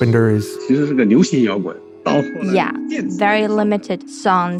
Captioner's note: speaking Mandarin Chinese